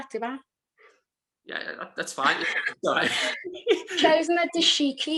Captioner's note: laughing